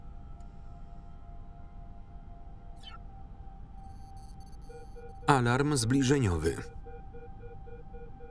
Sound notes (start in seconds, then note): 4.8 device beeping